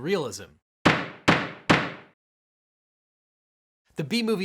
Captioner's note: gavel banging